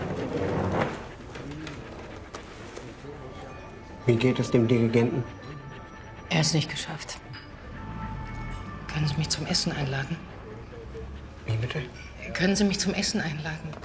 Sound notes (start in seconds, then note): 5.1 siren blaring